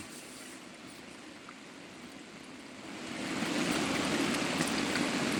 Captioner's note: water running